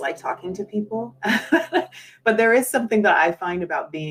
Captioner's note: laughs